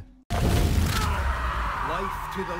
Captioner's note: Abby screaming